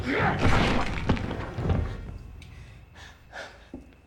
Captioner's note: body thuds